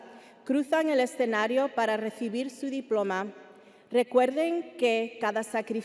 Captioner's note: speaking Spanish continues